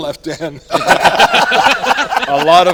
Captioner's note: all laughing